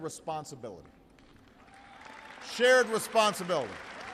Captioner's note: applause